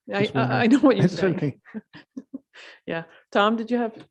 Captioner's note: laughing